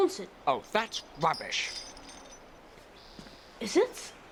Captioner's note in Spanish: traqueteo de la cadena